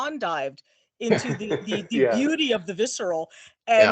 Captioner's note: laughing